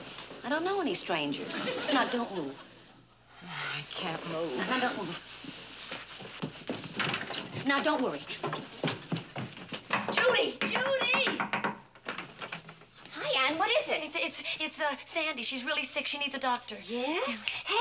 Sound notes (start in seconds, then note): 3.2 exhaling; 9.7 knocks